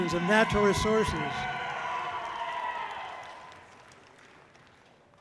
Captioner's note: audience cheering loudly